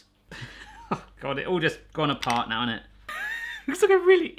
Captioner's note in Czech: smích